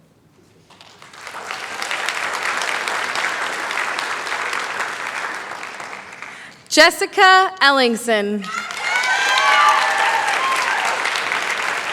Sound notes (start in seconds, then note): 0.6 applause; 8.4 cheering, applause